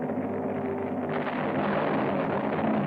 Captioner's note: explosions